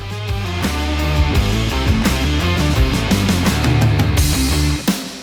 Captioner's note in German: Applause